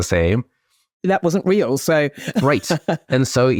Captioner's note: laughs